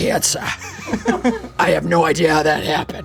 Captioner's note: audience laughing